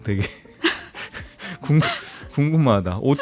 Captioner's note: laughs